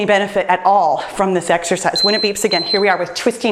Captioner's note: timer beeps